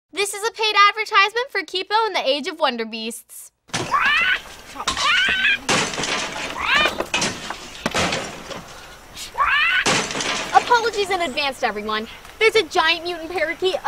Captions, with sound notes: - This is a paid advertisement for Kipo and the Age of Wonderbeasts. (squawking) (crashing) - Apologies in advance to everyone. There's a giant mutant parakeet